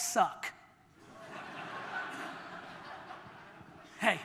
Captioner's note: audience laughter